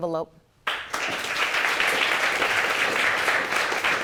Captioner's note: audience applauding